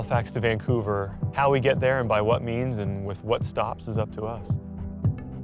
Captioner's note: none